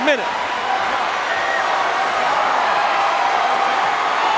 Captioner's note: crowd cheering